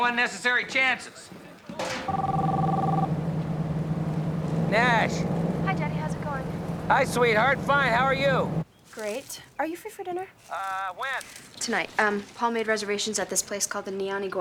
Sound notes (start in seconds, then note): 3.5 phone ringing